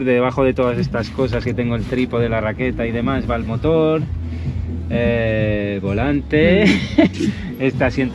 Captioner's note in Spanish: risas